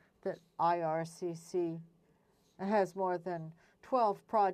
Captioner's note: speaking French